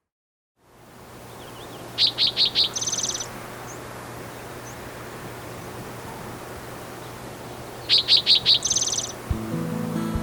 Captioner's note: bird chirping